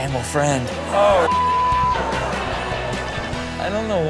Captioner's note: beep